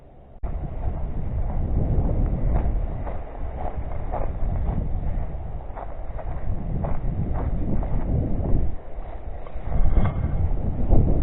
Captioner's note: footsteps on gravel. Wind. Nature sounds